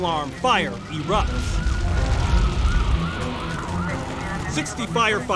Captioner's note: siren wails